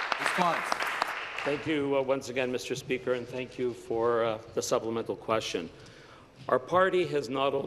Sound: applause

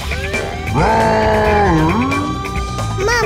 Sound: roaring

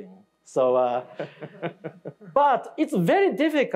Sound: listener laughing

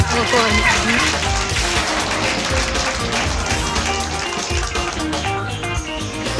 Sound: applause

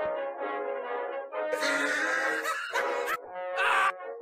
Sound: loud Laughing

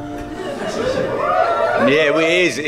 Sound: audience whoops

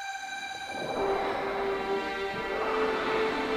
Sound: majestic music; water splashing

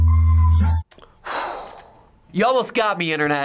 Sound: exhales

